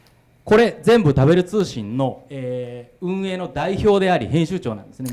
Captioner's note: speaking foreign language